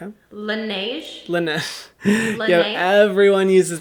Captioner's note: laughs